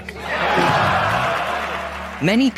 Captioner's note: audience laughing